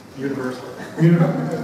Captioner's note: laughter